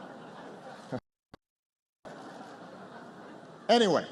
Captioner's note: laughter